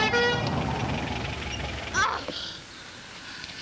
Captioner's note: ambulance stops